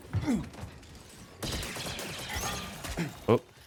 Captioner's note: gunshots